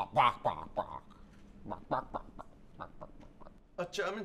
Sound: clucking?

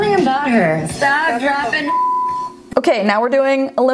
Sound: beep

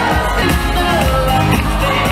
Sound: crowd cheering

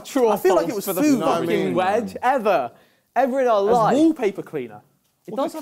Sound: crowd mumbling

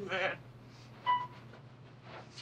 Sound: elevator beeps

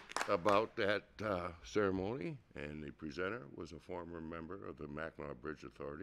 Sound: applause

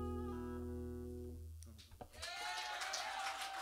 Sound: cheers and applause

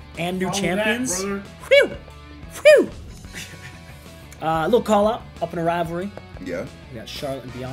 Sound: laugh

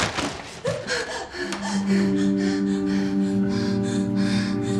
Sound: frightened breathing

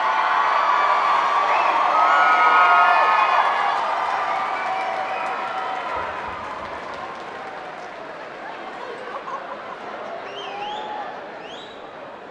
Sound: cheers and applause

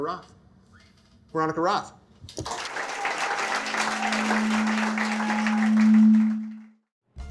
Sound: applause

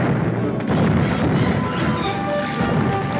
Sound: cannons continue firing

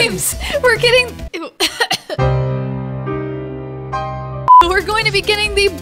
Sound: coughs

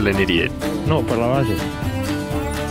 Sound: Spanish

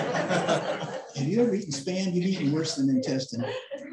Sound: laughter

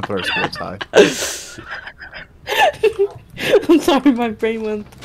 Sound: waowza laughter

